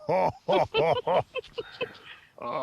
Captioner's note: chuckles